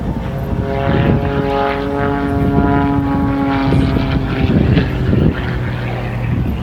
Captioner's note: engine noise